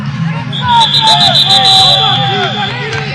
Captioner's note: aggressive music; multiple whistles blowing